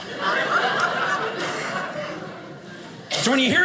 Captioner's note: audience laughing